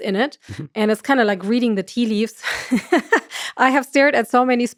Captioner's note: laughs